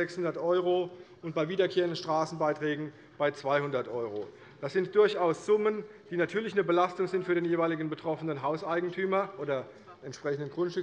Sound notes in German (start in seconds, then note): none